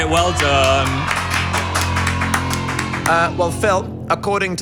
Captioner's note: crew and clap